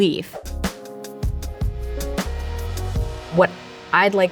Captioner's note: upbeat music; air whooshing